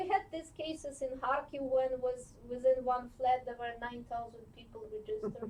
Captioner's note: non-english